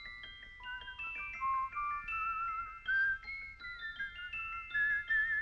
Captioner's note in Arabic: صفير اللحن